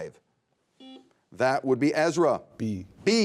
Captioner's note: buzzer beeping